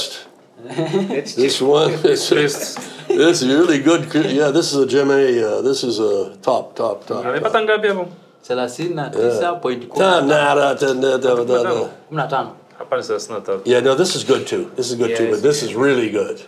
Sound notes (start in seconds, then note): 0.0 all laugh; 7.5 speak Swahili